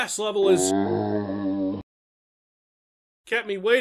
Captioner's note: Quake zombie sound